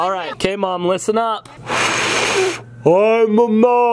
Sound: blowing sound

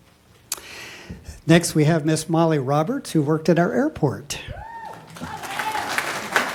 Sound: applause

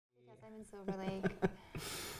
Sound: laughter

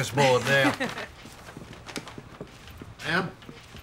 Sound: laughs

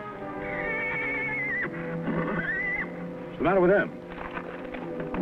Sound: Champ neighing

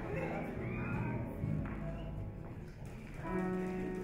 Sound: audience chatter

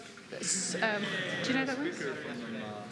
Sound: laughter

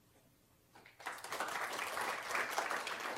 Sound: applause

